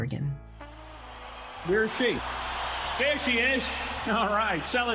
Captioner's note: crowd cheering